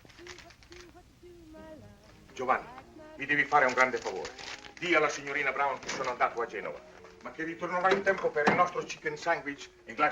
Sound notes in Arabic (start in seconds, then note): 2.6 الصوت المنطوق بالإيطالية